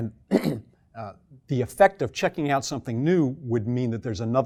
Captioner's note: cough